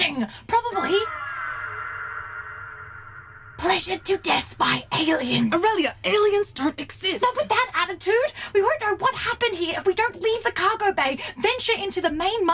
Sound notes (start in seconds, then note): 0.5 the SCREECHING SOUND is heard again; 5.1 louder whispers